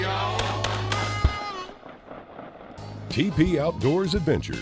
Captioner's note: gun fire